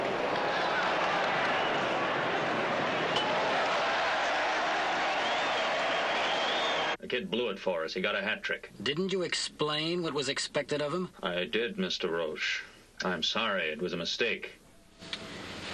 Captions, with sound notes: (crowd cheers) >The kid blew it for us. He got a hat trick. >Didn't you explain what was expected of him? >I did, Mr. Roche.